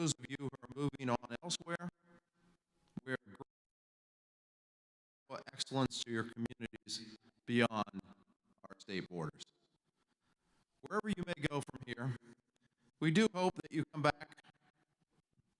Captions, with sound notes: For those of you who are moving on elsewhere, we are (audio cuts out) excellence to your communities beyond our state borders. Wherever you may go from here, we do hope that you come back